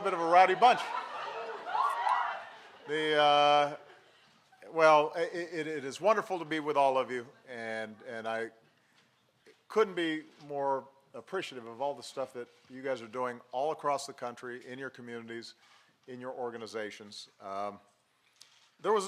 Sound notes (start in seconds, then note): 1.7 applause; 3.8 laughter